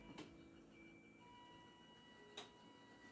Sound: beeping

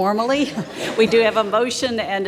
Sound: audience laughs

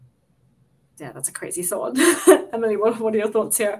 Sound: laughs

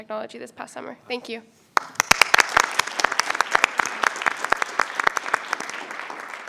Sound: applause

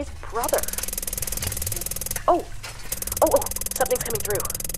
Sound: weird trippy noise

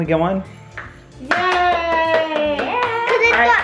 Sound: clapping

